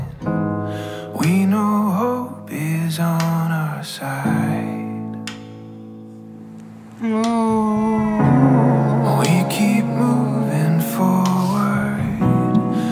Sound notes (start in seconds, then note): 7.0 vocalizing through contractions; 12.2 fetal heartbeat comes from the monitor